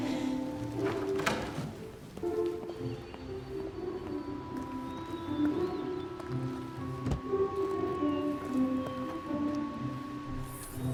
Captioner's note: laughs